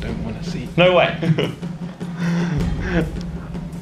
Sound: laughing

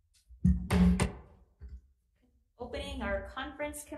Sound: gavel thudding

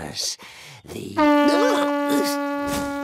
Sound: horn blows

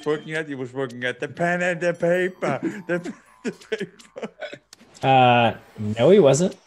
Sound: laugh

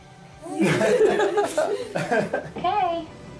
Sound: laughing

